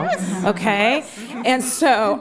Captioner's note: laughter